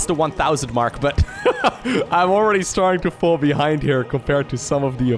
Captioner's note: laughs